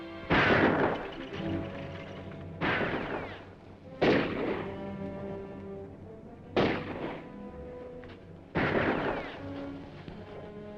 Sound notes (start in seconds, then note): 0.2 guns firing; 2.3 dramatic music; 6.2 guns firing; 9.4 dramatic music